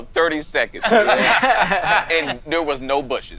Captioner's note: all laughing